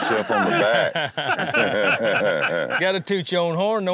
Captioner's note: laughter